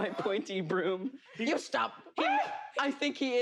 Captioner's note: shrieks